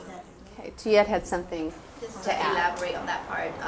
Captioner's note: voiceover